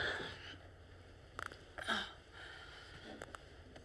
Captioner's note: clicking